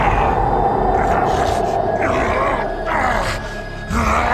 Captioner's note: ethereal whooshing; demonic snarling